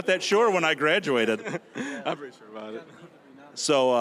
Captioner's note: laughing